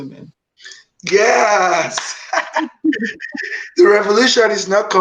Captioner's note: laughing